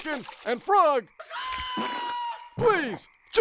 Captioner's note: chicken clucks